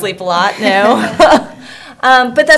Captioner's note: laughter